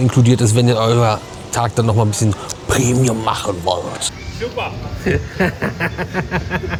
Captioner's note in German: gelächter